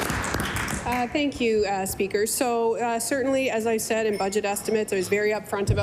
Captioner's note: applause